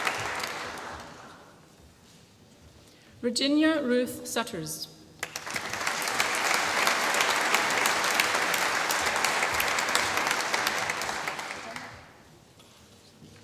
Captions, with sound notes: Virginia Ruth Sutters. (APPLAUSE)